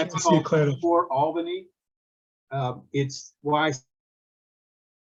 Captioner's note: audio cuts out